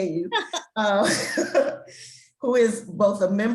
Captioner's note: both laugh